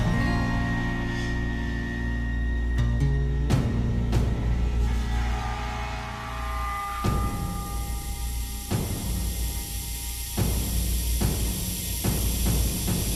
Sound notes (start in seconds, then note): 5.4 gas hissing